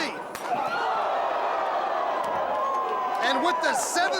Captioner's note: crowd cheering